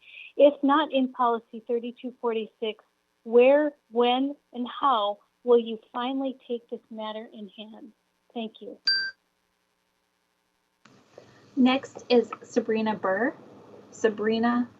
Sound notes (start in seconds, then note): 8.8 chime